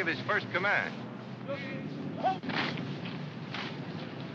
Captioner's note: officer shouts command